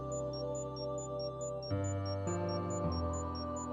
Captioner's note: faint beeping